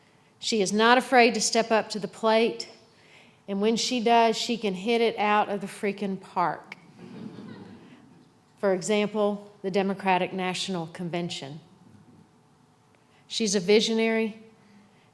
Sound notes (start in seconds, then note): 6.9 laughter